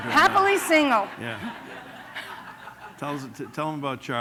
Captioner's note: laughter